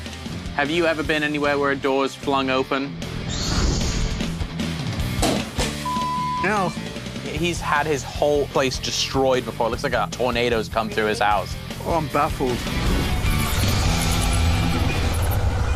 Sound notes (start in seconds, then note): 5.0 clanking